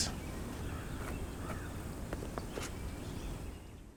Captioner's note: birds chirping